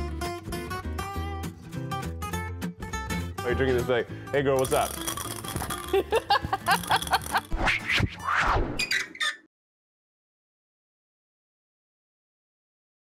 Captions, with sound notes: Or you can drink it this way... Hey girl what's up? *rattles bottle* *laughter*